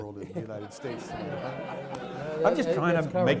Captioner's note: audience laughs